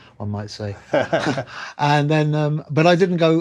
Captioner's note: laughter